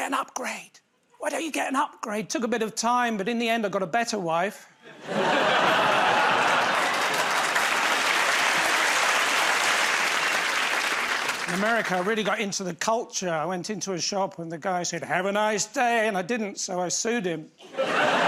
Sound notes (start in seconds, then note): 4.8 laughter; 7.9 applause; 17.6 laughter